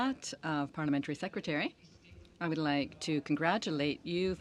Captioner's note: speaking french